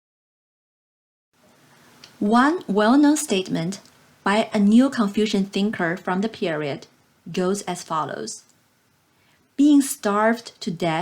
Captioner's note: click